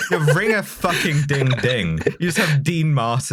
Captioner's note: laughter